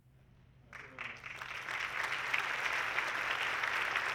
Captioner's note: audience clapping